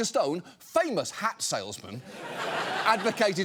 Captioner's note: studio audience laughing